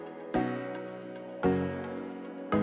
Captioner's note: none